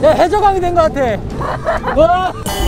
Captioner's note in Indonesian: Haha!